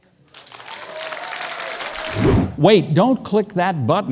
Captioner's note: audience cheering